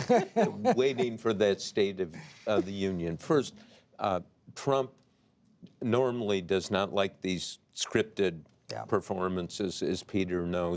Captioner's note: laughter